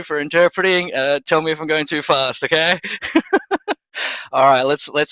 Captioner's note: laughs